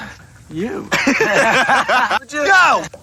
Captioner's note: laughs